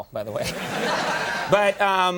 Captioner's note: audience laughing